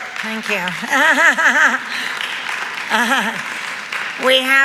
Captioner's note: Fran laughs; audience applauds